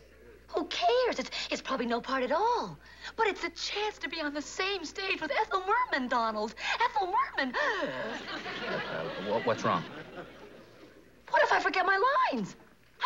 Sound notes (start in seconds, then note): 7.4 gasps